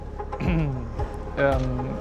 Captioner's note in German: räuspert sich